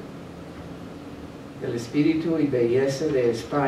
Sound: speaking spanish

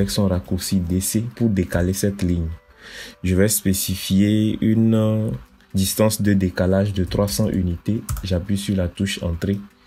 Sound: DC in French

